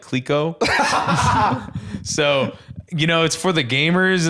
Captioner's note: laughs